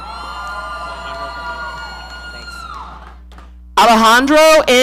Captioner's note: audience cheering